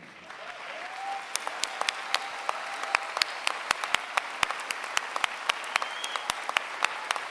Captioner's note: applause